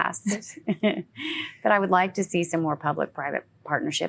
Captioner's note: laughing